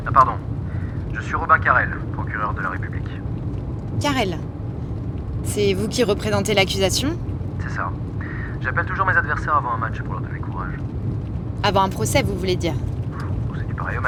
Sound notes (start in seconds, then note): 0.1 on the phone; 7.5 Carel on the phone; 13.8 Carel on the phone